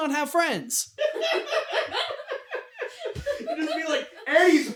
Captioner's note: team laughter